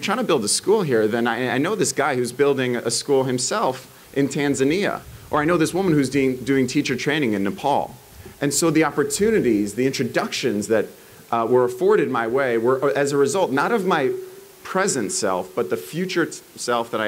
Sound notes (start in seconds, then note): none